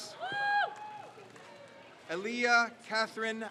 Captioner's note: crowd cheers